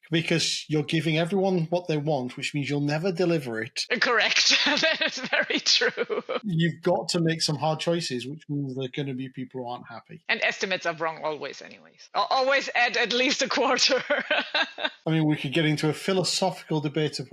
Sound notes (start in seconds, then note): 4.0 laughing; 13.7 laughing